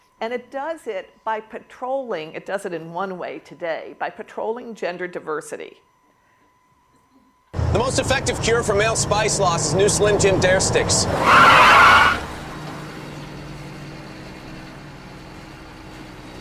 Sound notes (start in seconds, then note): 11.1 tires squealing